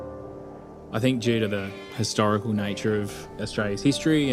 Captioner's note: male Voice